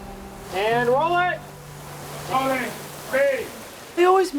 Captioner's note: crew shouting in background